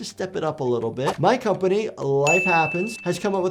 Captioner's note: bell rings